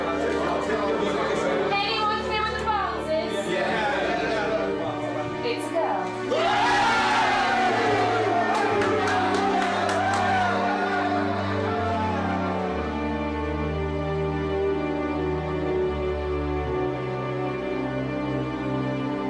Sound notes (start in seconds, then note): 0.0 people chattering; 6.0 all cheering